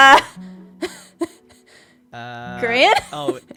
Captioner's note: laughs